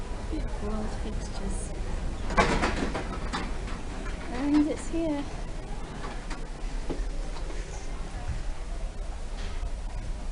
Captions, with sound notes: 'Beautiful old fixtures.' (Doors clunk) 'And it's here.'